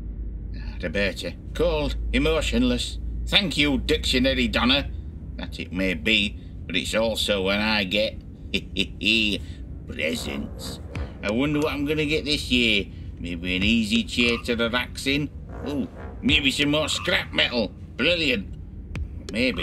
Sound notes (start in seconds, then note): 8.5 chuckles; 10.0 whimsical music